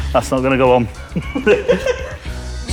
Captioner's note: both laugh